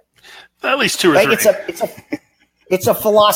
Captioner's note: laughing